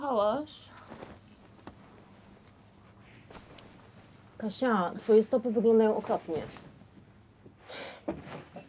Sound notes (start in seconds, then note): 1.6 rummaging; 7.7 sighs